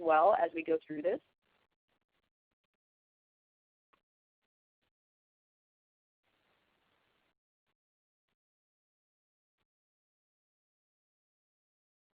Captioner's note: silence